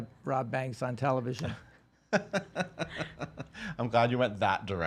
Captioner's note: laughs